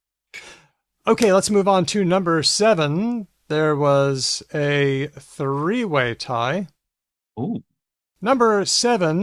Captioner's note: laughs